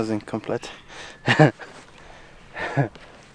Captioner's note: laughter